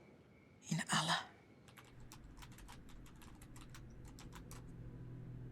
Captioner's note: keyboard clacking